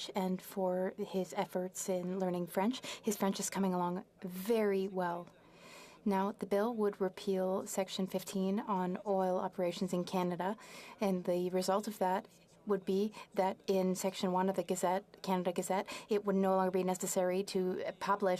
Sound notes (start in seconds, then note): 1.4 speaking French